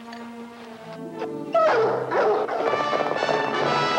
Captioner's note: dogs barking; upbeat music